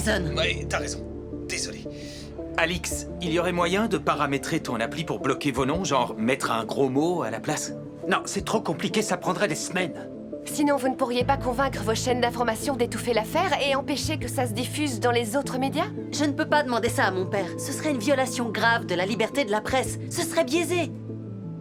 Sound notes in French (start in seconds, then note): none